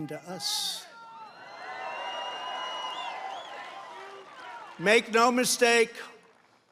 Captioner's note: applause